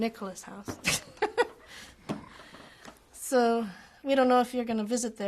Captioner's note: laughs